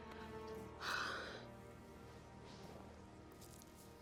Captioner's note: Debi sighs